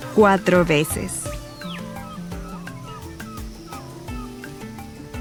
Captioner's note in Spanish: pájaros trinando